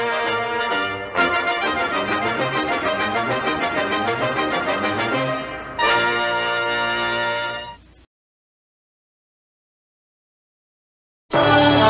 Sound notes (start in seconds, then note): 7.6 silence